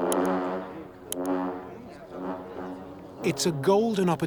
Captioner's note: horns blowing